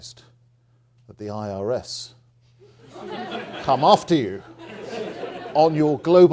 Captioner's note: audience laughing